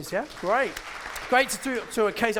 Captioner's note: audience claps